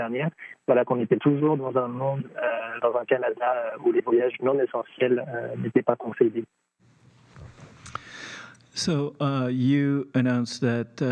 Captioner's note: speaking French